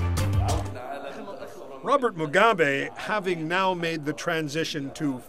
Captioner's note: voice speaking alternate language